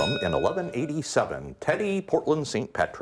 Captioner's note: bell ringing